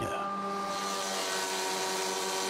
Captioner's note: saw screech